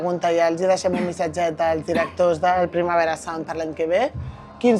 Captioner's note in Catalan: s'aclareix la gola